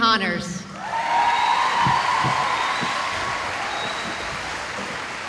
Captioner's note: cheering